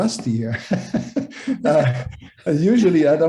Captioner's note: laughing